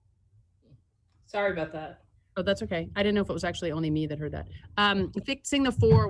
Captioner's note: audio interruptions